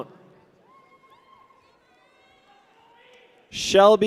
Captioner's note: people cheer